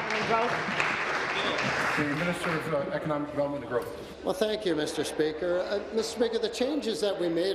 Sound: applause

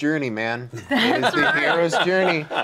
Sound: group laughing

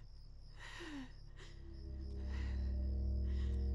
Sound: shaky breathing

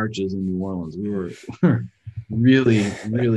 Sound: chuckles

